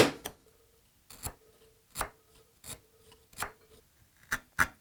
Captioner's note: chisel scraping